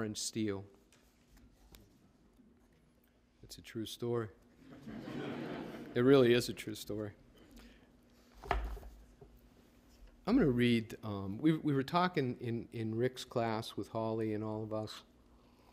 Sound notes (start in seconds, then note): 4.6 laughter